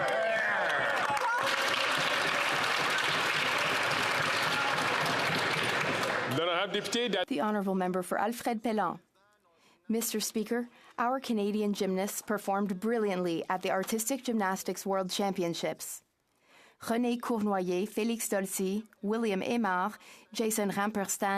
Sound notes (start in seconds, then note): 4.3 some Applause